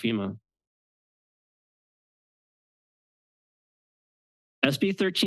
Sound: pause

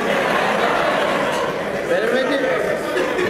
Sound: laugh

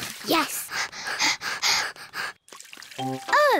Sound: both panting

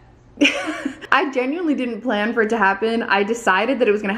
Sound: laughs

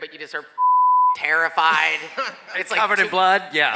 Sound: laughs

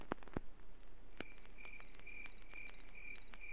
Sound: cricket chirping sounds in the background

